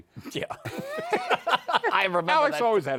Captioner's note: laughter